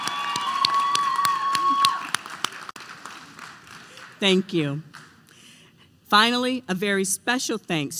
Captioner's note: applause